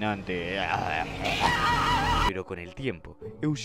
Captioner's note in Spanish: grito